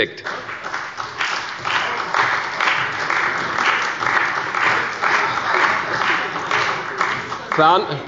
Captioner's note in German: Beifall bei der CDU und dem BÜNDNIS 90/DIE GRÜNEN – Zurufe von der SPD